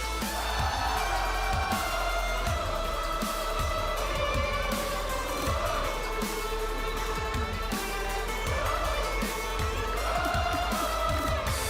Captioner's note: cheers and applause